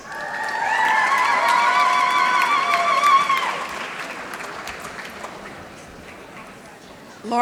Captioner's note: applause